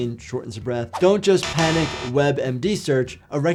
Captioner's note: buzzer buzzes